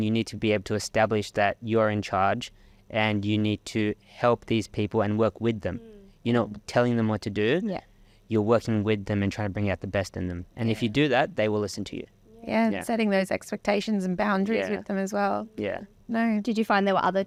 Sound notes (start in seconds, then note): none